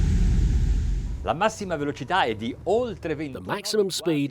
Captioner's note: speaking foreign language